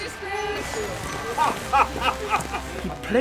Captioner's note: laughing